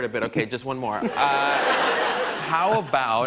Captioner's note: laughter